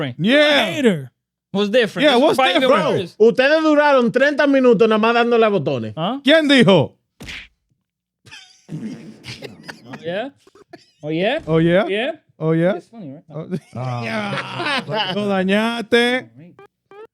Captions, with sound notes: Yeah. What's different? Yeah, what's different bro? (Speaking In Foreign Language) (Laughing) Oh yeah? Oh yeah? Oh yeah? (Laughing) (Speaking In Foreign Language)